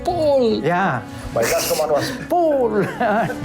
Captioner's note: laughs